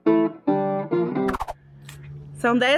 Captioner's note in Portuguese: som de transição